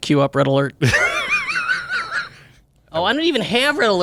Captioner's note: laughs